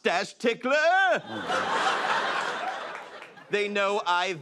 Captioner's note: laughter